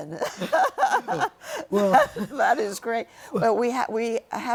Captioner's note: laughter